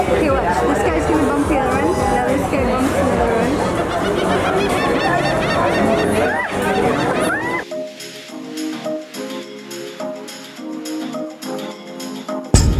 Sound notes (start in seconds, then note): 0.0 people chattering; 3.8 birds screeching; 7.6 gentle music